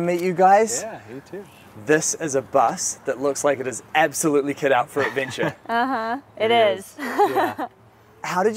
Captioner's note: haha